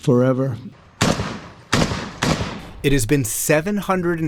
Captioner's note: gunshots